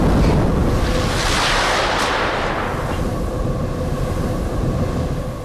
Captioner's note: lightning popping